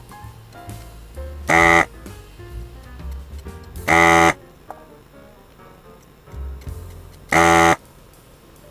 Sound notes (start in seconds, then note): 1.9 motor whirring